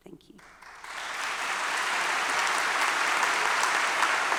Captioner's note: students applauding